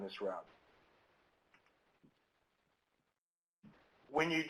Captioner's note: silence